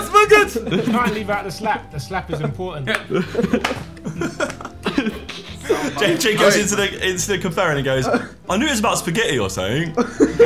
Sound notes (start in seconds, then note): 2.8 group laughing; 9.9 everyone laughing